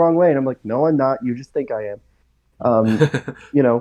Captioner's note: laughs